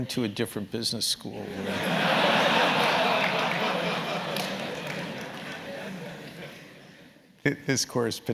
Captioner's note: laugh